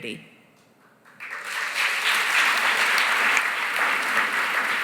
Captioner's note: applause